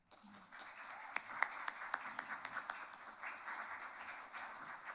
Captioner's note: audience applauds